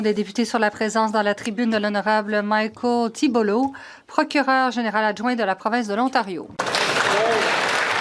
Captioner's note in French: voix de l'interprète